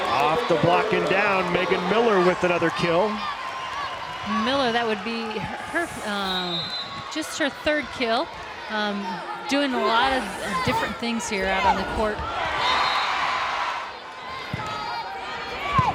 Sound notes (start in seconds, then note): 0.0 crowd and players cheering; 0.0 players yelling; 12.6 whistle blows; 12.8 crowd cheering